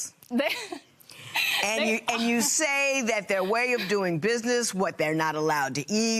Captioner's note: laughing